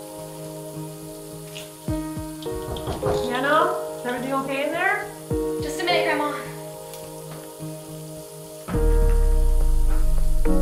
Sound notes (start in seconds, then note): 2.5 knock on door